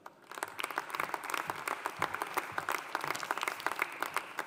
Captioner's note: audience applauding